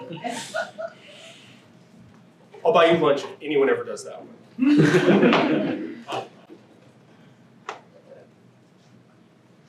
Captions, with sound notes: (students laughing) I'll buy you lunch if anyone ever does that one? (students laughing)